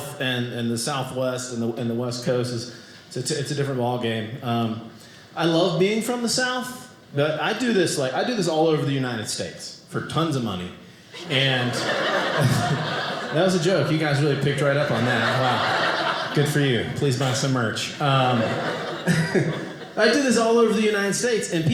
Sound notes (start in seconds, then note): 17.9 audience laughing